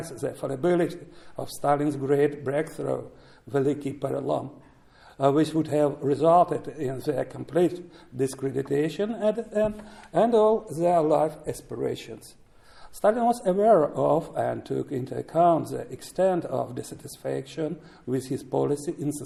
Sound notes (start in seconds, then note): 3.3 speaking russian